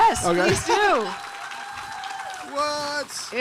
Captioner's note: audience cheering